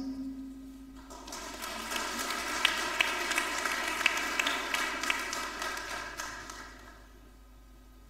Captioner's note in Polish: oklaski